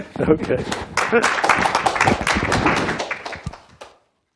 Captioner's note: applause